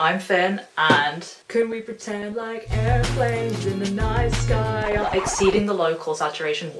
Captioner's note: singing badly; record scratch